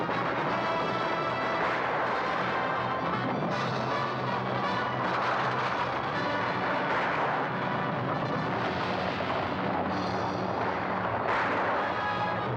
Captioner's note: dramatic music; hooves pounding; dramatic music; guns firing